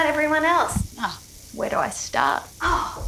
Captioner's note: sighs